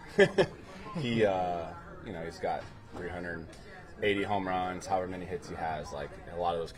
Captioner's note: laugh